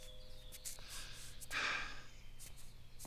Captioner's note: deep inhale